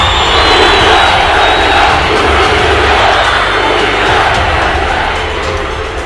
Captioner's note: cheering